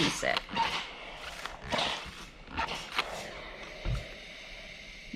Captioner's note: steam spray squeaking